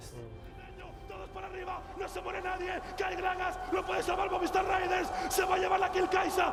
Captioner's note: speaking in foreign language